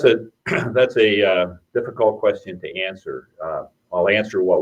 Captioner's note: clears throat